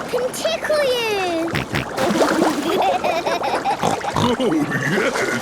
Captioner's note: snorting, giggling